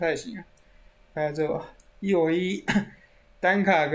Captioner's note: cough